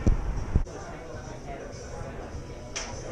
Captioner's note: chattering